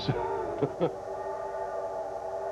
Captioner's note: laughs